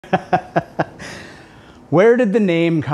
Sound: laughing

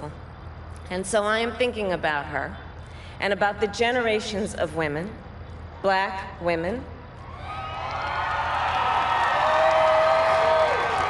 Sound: crowd applauds

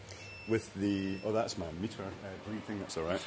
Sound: beeping in background

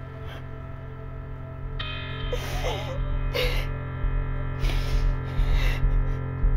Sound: crying

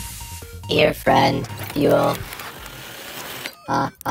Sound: robotic voice; robotic laughing

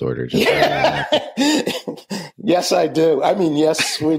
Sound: laughs

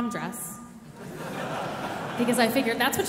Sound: audience laughing

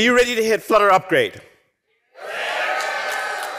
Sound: cheering; applause

